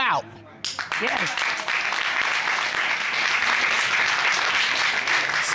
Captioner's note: applause